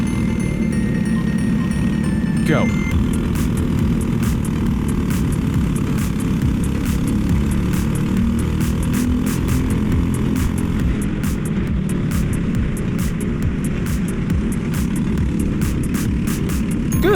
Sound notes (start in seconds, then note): 2.8 karts barrel down the long straight